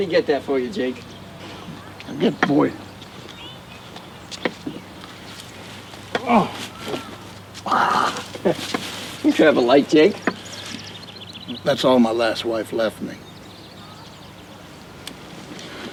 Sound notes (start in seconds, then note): 6.2 Jake grunts